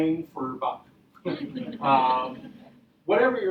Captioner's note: audience laughing